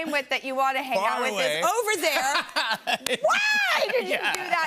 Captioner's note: laughter